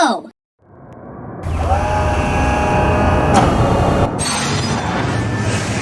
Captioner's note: transport Assault Ship Thrusters preparing for takeoff